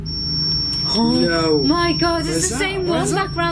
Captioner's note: beeping